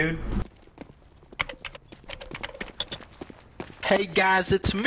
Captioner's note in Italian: scrive sulla tastiera